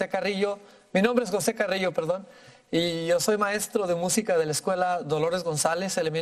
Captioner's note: speaking in foreign language